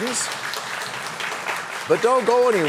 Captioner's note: applause